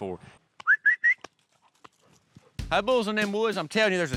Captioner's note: whistling